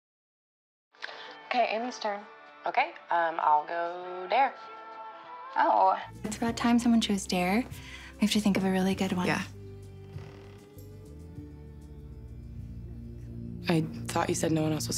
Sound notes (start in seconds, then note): 10.0 creaking; 11.4 ominous music